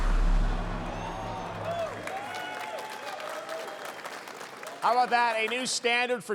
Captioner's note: cheers and applause